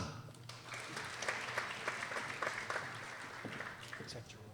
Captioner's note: people applauding